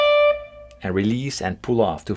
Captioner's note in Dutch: poef